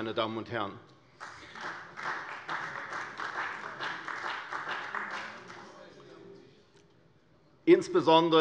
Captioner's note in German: Beifall bei der CDU und dem BÜNDNIS 90/DIE GRÜNEN